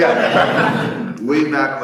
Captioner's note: audience laughing